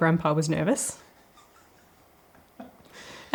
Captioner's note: laughter